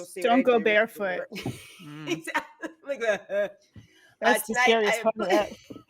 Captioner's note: person laughing